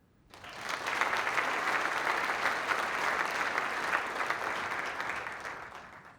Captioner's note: applause